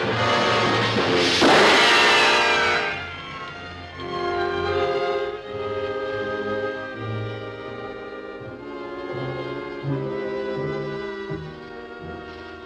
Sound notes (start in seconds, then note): 1.2 gun firing; 9.7 dramatic music